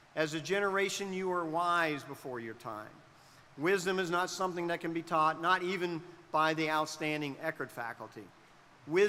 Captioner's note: none